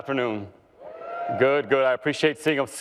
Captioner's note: cheering